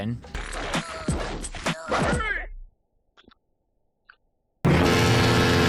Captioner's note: loud boat horn incoming